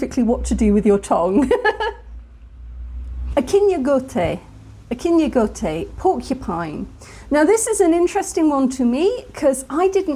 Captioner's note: laughing